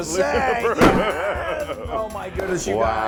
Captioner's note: laugh